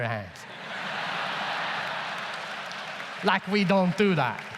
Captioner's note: audience laughs